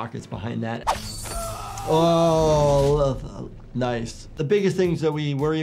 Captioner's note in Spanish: luchador gritando